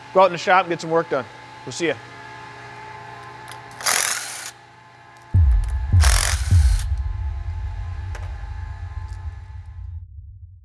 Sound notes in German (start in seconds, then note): 3.1 Werkzeug surrt; 3.7 Übergangsgeräusche